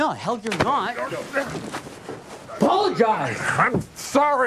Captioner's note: man grunting